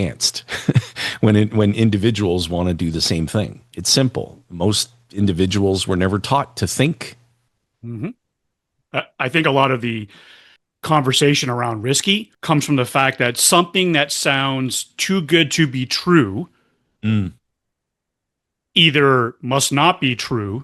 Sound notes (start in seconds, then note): 0.0 laughter; 7.8 clears throat